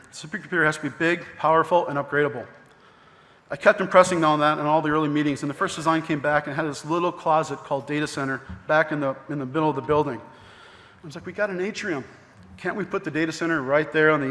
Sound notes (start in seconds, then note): none